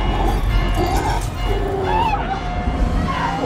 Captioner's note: growling